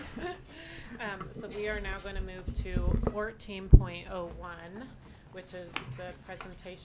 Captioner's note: laughs